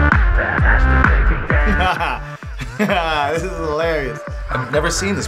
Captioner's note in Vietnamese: laughing